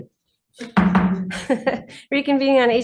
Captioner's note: gavel bangs; laughing